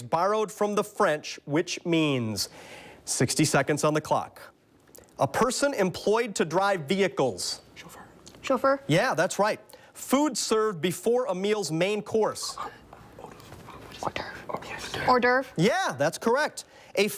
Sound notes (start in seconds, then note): 7.8 whispers; 14.0 whispers